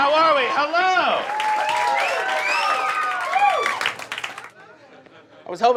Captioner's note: audience cheering; audience applauding